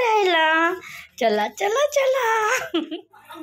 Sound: chukles

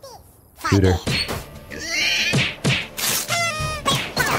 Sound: sound effects play

